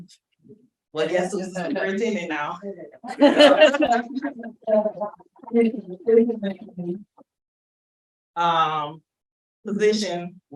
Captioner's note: crowd laughter